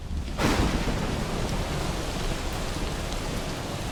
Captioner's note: rain falling